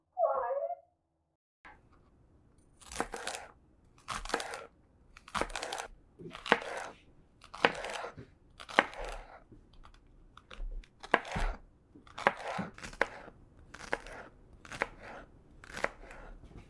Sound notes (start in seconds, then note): 2.8 celery crunching